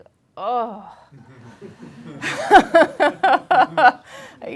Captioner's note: laughing